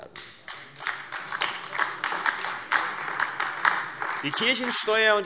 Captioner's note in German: Beifall AfD